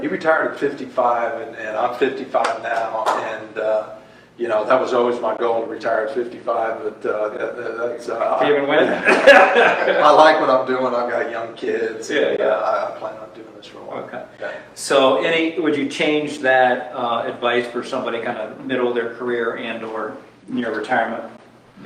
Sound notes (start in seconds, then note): 2.7 applauds; 8.7 laughs